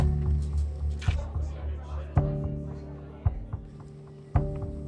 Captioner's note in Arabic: ثرثرة الحشد